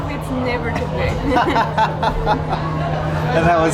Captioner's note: both laughing